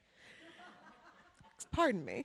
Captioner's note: people laughing; laughs